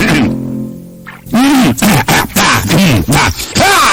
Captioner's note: bass boosted throat clearing